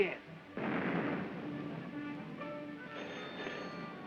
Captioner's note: explosions in distance; phone rings